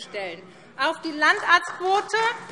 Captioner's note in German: Beifall SPD